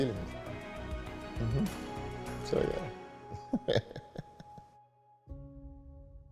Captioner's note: he chuckles